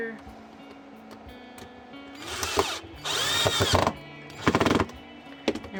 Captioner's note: drill noises